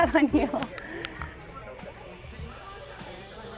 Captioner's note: laughs